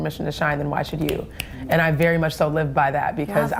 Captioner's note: snaps